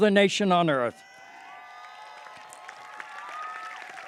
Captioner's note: applause